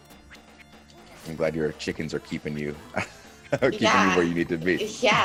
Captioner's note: laugh